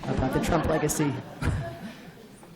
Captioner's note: laugh